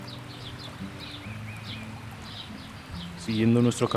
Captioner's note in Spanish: Pajaros y rio de fondo